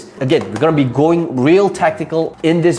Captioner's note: rattling laptop